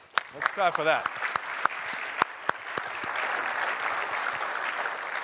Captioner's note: applause